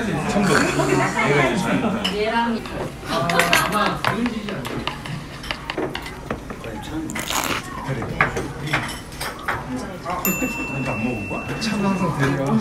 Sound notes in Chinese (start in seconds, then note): 7.0 嚼嚼嚼